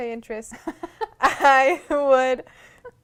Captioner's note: laughter